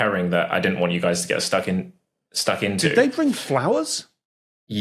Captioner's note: none